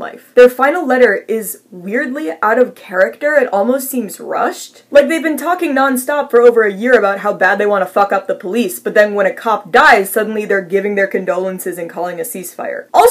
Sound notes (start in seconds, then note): none